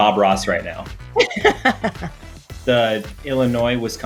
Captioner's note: laughs